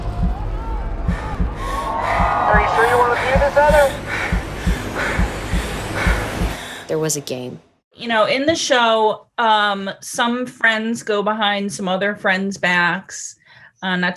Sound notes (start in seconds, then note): 0.0 crowd cheering; 3.6 quick breathing